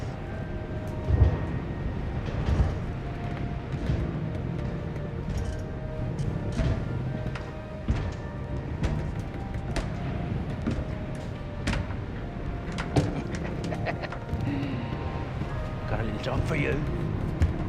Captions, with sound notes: (footsteps padding) - I got a job for you.